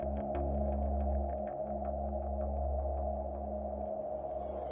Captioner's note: gentle music continues; wind whistling continues